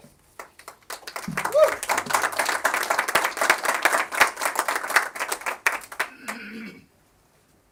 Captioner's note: applause